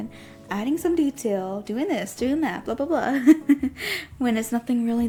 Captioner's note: giggles